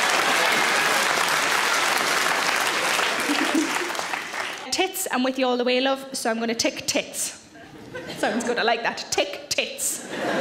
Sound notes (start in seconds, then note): 3.2 Sarah chuckles; 10.0 audience laughs